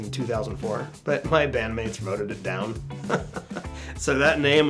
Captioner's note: laughs